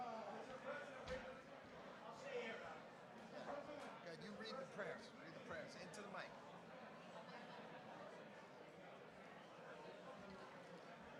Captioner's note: background chatter